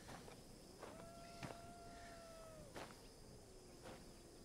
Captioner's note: coyote howls in distance